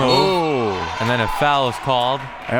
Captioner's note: whistle